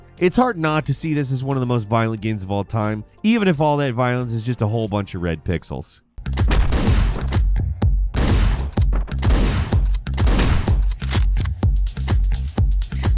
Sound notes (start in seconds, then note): 6.2 upbeat funky music; 8.1 gunshots blasting